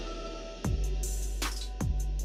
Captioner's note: mic drop